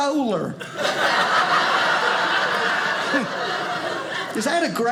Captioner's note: audience laughing